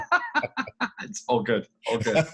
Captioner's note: laughs